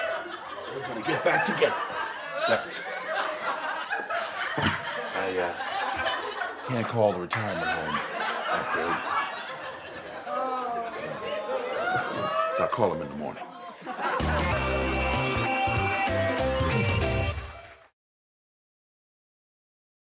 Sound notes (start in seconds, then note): 2.1 audience laughing; 14.1 funky music; 14.9 audience claps